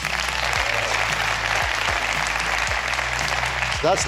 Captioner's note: applause